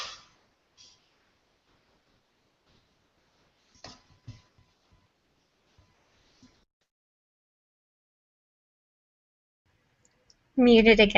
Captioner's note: sound was muted